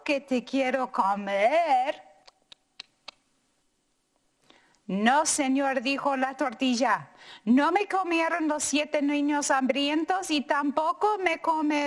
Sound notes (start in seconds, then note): 2.2 chomps; 4.9 speaking in foreign language